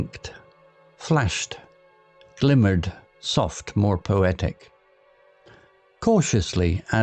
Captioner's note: softer, more poetic